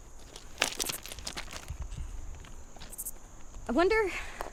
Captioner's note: stones rattling